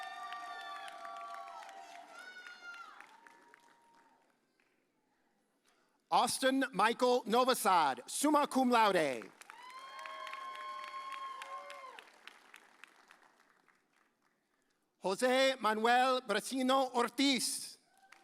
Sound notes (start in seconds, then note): 0.0 audience cheers; 9.4 audience cheers; 18.0 audience cheers